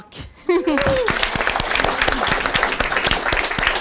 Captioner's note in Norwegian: Applaus